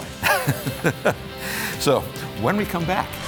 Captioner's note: laughter